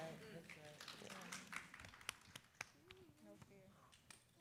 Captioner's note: audience claps